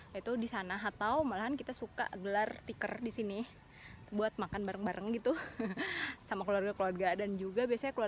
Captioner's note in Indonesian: heheheh